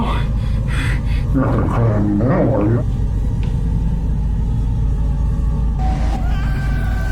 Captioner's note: breathing heavily; voice distorted; Chris screaming